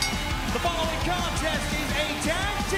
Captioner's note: bell ringing